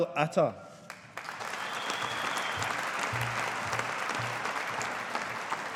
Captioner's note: audience applauding